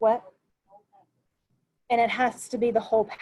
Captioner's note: murmurs